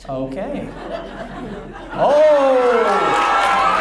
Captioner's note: audience laughs